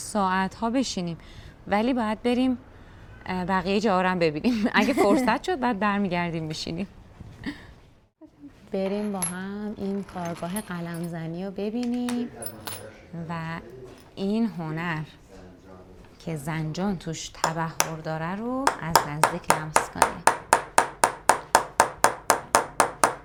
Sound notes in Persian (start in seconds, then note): 4.5 خنده